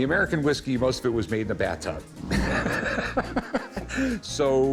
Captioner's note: laughs